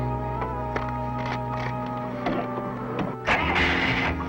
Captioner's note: paper rustles; engine sputters